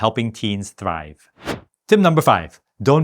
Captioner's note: air whooshing